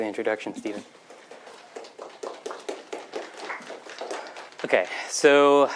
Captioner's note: applause